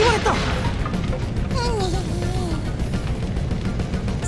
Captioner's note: not as loud groan